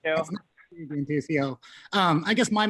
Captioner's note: murmur